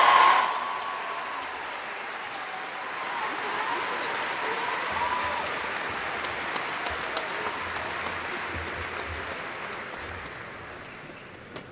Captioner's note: applause